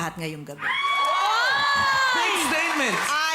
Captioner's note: applause, cheering